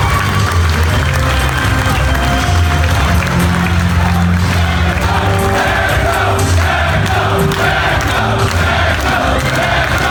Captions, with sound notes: - [Crowd] Magnum, Magnum, Magnum, Magnum, Magnum.